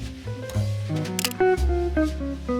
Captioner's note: camera clicks